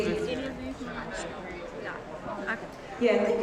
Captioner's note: chattering